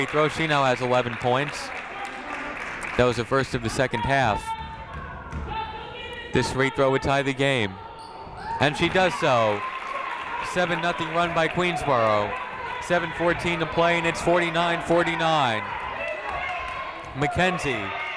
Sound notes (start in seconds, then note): 16.0 people shouting in the crowd